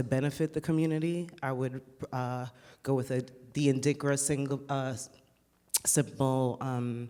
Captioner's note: speaks foreign language